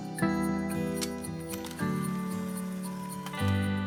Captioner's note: camera shutter clicks